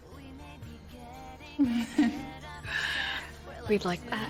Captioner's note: laughs